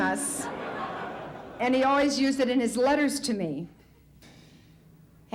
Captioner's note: audience laughs